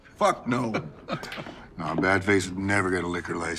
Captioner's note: Mitch chuckling